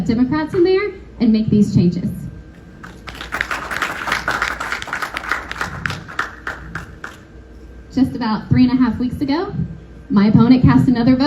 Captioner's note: applause